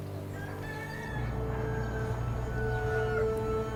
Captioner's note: birds chirping; rooster crowing